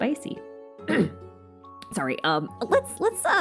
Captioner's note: coughs